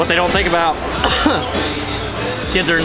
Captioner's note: coughing